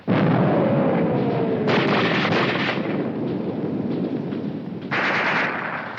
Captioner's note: bomb exploding; guns firing